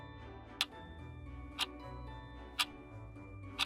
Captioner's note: clock ticking